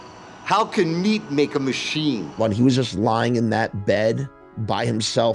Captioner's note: none